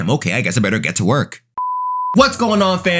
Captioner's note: beeping